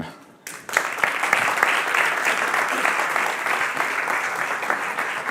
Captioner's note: audience applauding